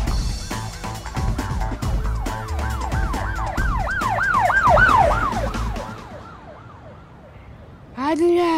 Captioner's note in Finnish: takaa-ajon ääniä